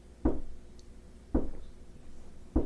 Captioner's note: knock at door